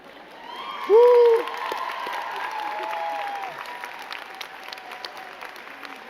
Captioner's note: crowd cheering and clapping